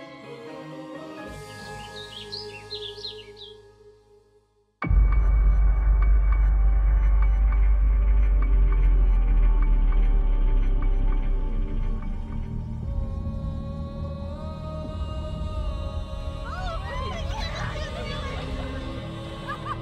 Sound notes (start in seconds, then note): 1.3 birds chirping; 4.9 intense suspense music; 16.4 screams; 19.5 laughing